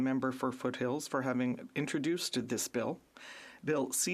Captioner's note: speaking French